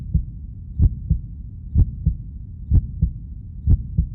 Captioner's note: heart beating